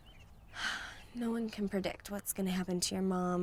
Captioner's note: sighs